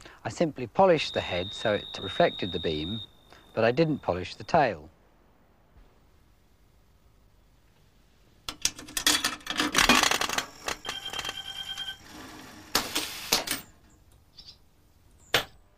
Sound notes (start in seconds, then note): 8.8 coin rattle; 11.2 coin clunk; 11.2 whirring